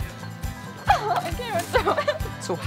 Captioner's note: laughing